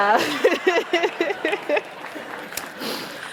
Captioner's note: laughter